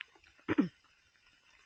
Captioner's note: clear throat